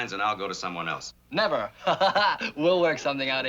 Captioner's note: chuckles